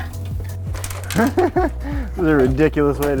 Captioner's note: chuckles